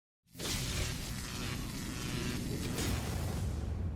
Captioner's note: electricity Buzzing